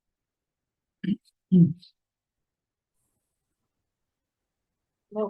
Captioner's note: clears throat